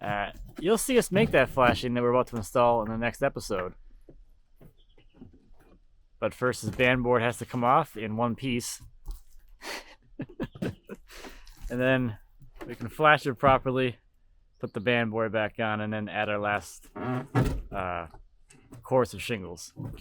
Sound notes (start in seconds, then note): 9.6 laughing